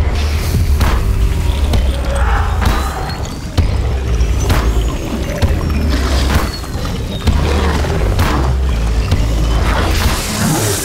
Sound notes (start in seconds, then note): 2.8 whooshing; 8.0 growls